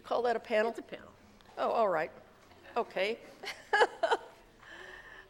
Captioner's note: laughs